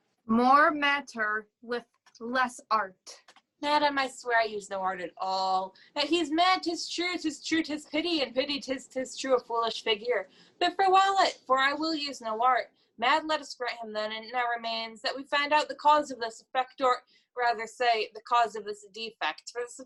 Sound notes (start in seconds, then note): none